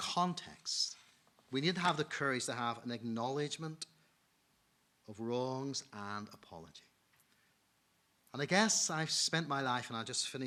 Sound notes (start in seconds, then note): none